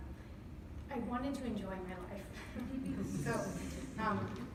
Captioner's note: laughs